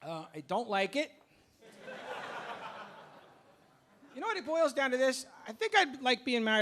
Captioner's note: audience laughing